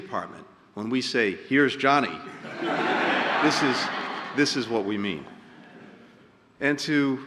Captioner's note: laughter